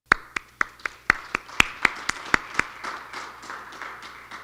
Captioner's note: applause